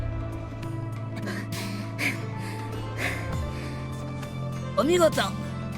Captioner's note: huff